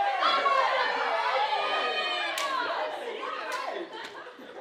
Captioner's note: friends cheering